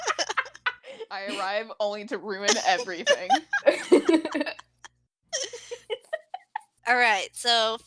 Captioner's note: laughing